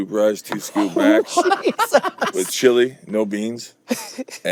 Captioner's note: laughing